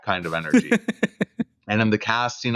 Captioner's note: laughter